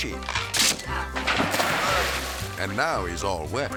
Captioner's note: wood cracks; water splashes